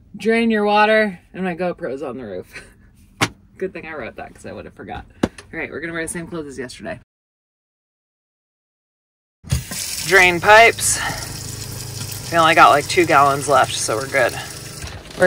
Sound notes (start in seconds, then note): 10.9 water sloshing